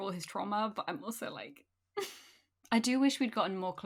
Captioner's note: sobs